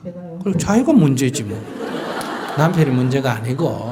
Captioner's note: audience Laughter